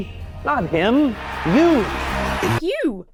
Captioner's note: crowd cheers